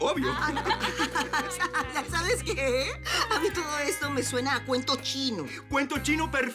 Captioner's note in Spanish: Risas